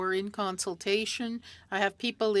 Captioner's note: speaking French